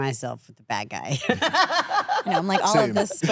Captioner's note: laughs